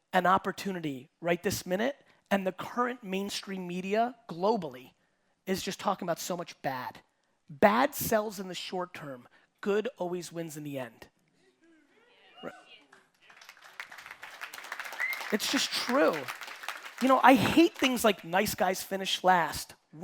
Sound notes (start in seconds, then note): 12.9 audience clapping and cheering